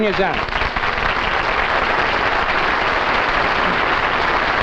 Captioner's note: audience applauds